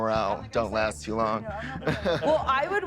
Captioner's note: laughs